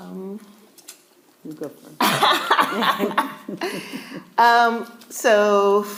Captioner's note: laughing